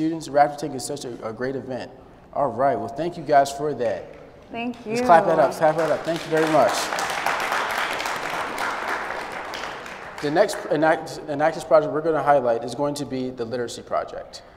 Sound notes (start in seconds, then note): 5.7 applause